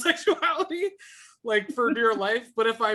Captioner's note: laughing